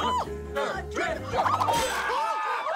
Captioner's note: crowd chanting; crowd laughing